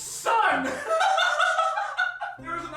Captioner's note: giggles